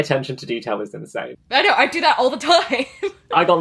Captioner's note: lauging